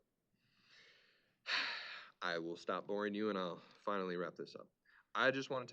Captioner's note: exhales